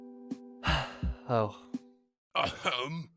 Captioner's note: sigh